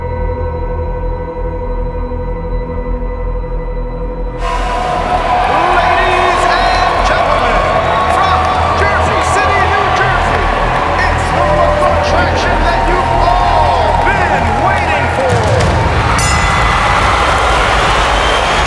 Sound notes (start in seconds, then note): 14.5 bell dings; 15.7 crowd cheering